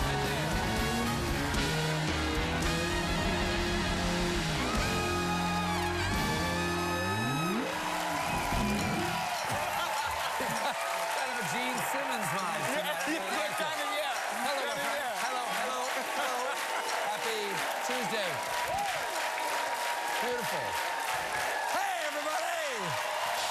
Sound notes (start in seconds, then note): 5.2 band playing; 5.6 cheers and applause